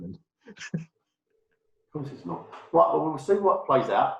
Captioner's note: laughs